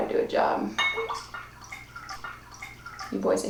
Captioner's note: rum trickling